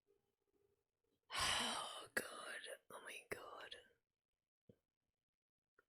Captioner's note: whispers